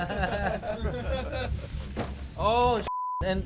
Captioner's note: risas